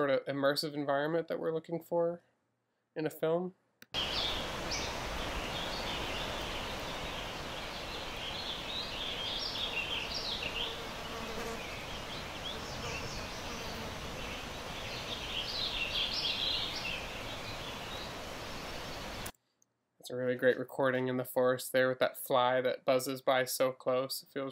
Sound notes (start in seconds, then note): 4.0 water rushing; 4.2 birds tweeting; 11.4 insect buzzing